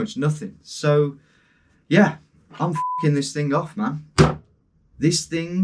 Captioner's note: beep